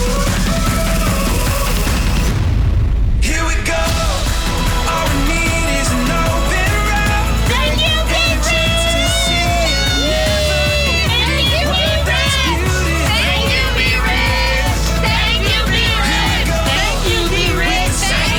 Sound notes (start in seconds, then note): 10.2 cheering